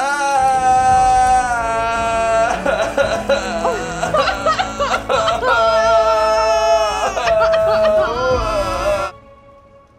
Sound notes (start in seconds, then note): 2.0 sobbing; 4.4 both sobbing